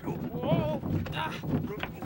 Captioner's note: both groaning